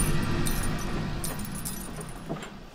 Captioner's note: shoes clinking